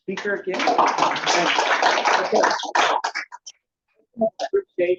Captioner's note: audience applauds